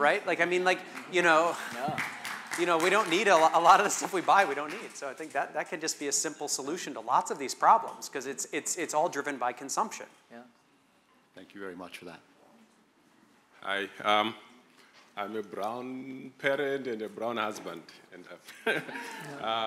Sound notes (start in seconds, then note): 1.4 clapping